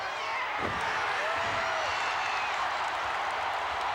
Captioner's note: crowd cheering